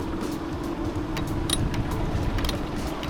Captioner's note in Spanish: chirriando